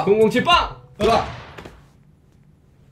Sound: bang

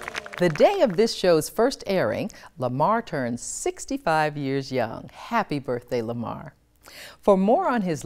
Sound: applause

